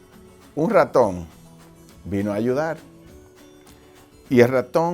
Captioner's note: speaking foreign language